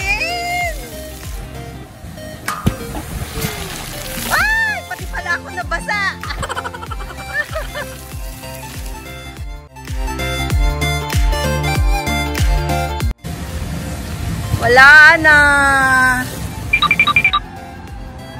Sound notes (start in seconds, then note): 5.8 laughs; 16.7 tip toes